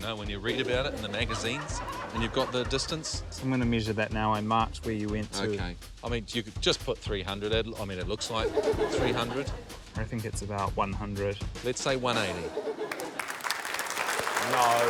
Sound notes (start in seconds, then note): 8.1 laughter; 12.1 laughter, applause